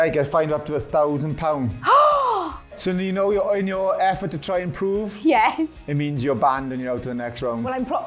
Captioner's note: gasps